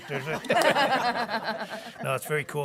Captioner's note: people laughing